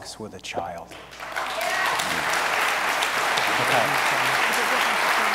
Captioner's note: audience applauds